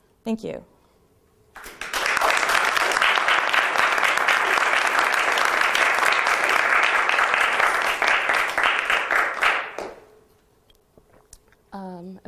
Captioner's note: applause